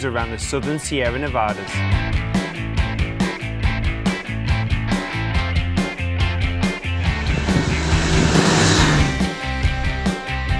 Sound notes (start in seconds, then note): 2.4 upbeat adventurous music; 6.2 motorcycle revving over music